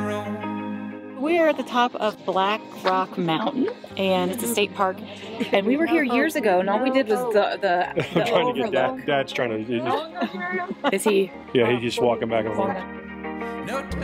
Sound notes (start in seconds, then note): 9.8 chuckles